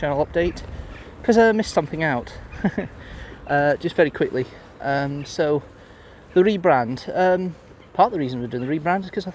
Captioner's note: chuckles